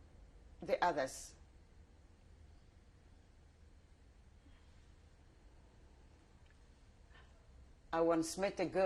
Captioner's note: pauses for 7 seconds